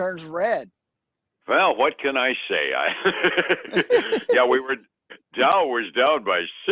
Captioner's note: laughing